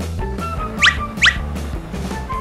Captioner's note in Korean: 슉슉